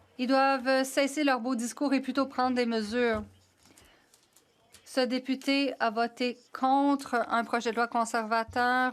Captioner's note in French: voix de l'interprète